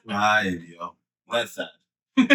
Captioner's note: speaking In Foreign Language